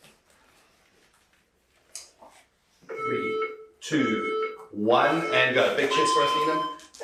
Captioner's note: beeping